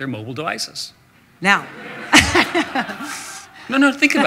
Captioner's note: audience laughter